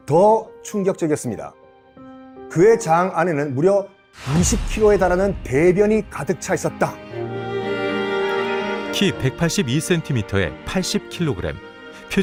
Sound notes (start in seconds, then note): 6.7 voiceover